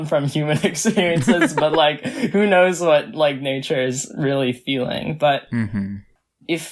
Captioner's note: laughs